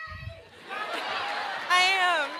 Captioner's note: laughter